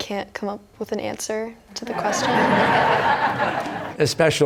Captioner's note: laughter